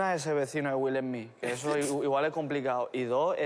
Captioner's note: laughs